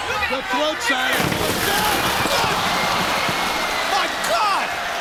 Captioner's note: liquid splashing